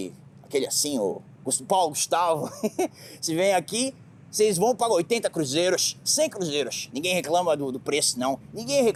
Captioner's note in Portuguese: risada